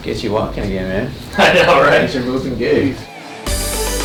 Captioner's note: chuckles